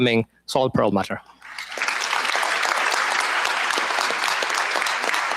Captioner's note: applause